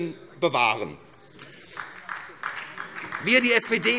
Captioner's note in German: Beifall SPD